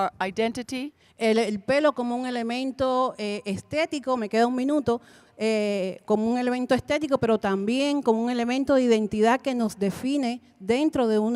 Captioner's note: Spanish language 00:43:01